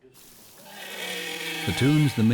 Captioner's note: whale singing